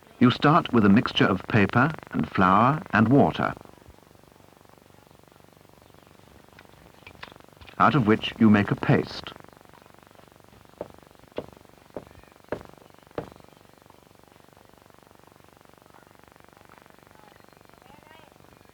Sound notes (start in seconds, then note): 10.6 tap, tap, tap, tap, tap